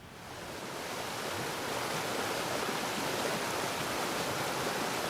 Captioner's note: water flowing